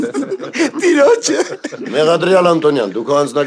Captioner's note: haha